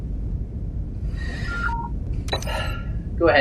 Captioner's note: comm Alert